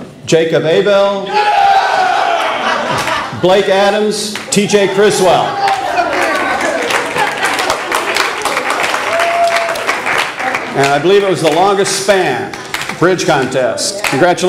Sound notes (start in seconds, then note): 5.5 audience applause